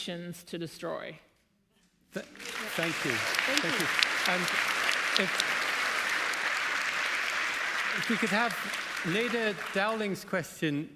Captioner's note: applause